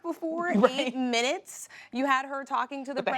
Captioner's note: laughs